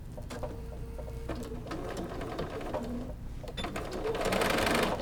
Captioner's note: sewing machine rumbling